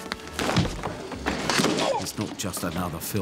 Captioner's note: joker grunts